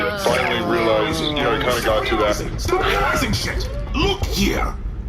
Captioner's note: shouting over this